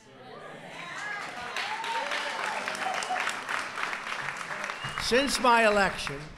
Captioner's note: applause